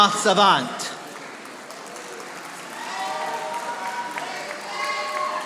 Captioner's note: audience applauding